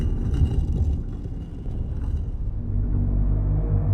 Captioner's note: grating stone